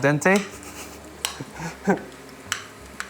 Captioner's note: chuckles